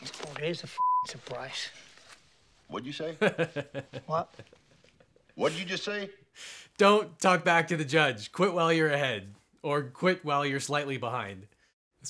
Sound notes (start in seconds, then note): 3.2 lawyer laughs